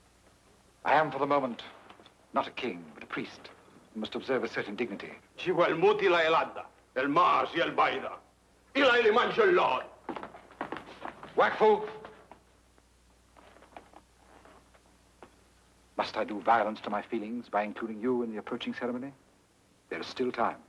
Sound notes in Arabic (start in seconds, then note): 6.2 الكاهن يتكلم لغة أجنبية; 12.1 يتحدث لغة أجنبية